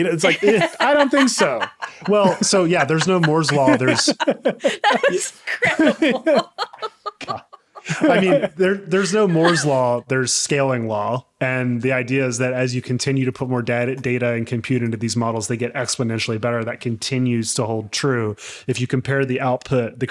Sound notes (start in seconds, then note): 1.5 laughing; 6.3 laughing; 7.8 all laughing